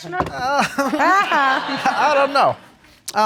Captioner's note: sarcastic laughing